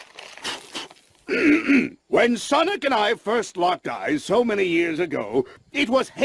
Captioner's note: blows dust off; clears throat